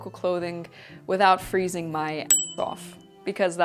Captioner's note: bell dings